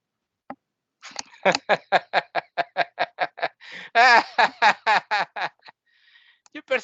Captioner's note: laughing